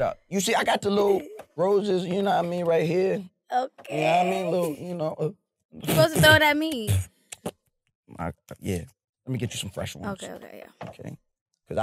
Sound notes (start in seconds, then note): 5.5 blows raspberry